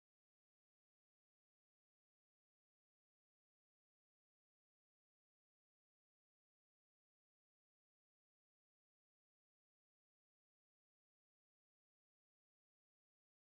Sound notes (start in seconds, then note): none